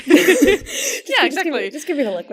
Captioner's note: both laugh